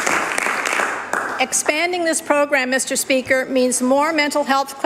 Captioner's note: applause